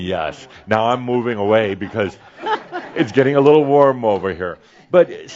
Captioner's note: some chuckles